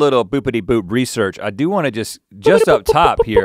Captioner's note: vocalizing